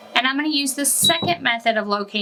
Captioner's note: machine beeps